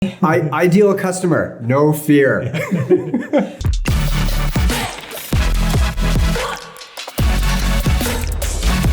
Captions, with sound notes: - Ideal customer, no fear. (laughing) (upbeat music)